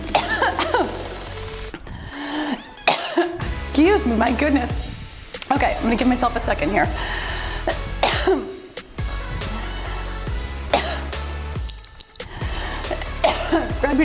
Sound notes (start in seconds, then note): 0.1 coughs; 7.6 coughs; 11.6 timer beeps